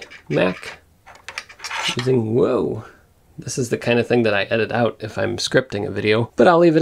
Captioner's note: puck drop